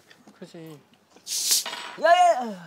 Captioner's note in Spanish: Sonido al asar